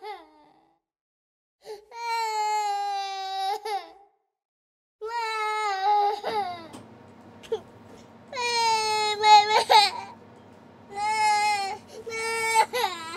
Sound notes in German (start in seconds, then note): 8.4 Kind weint